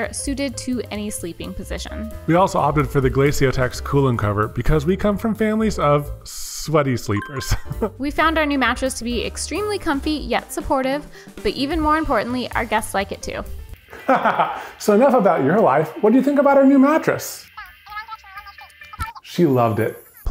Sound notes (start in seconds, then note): 7.1 sound chimes; 13.9 laughs